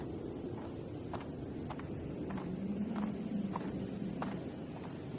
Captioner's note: footsteps crunching